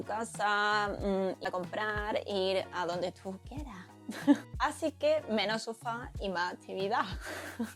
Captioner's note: laughs